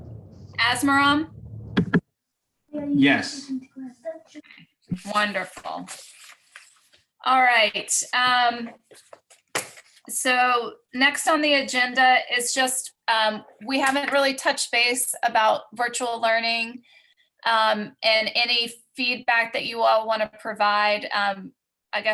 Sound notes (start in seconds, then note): 5.0 papers rustling